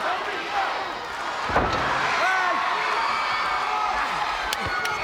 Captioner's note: body thudding